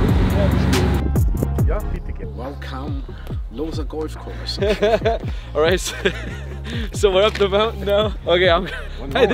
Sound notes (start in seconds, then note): 5.8 laughs